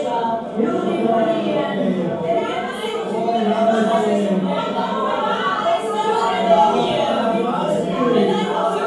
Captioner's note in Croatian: Glasan govor ljudstva